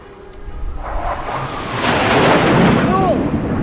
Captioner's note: roaring sound in the sky above them